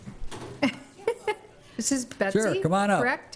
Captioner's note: laughs